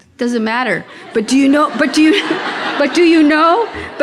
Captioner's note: audience laughing